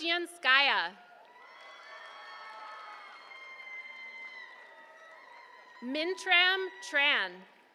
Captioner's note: applause